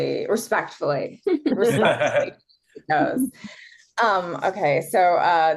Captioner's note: guests chuckle